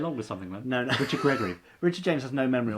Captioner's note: laughing